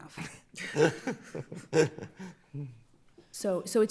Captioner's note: laughing